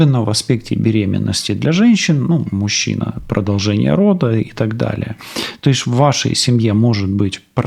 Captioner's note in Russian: фыркает